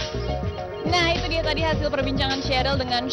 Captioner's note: non-english speech